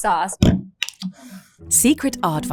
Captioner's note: bottle thuds and scrapes